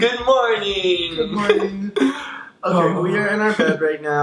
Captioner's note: laughing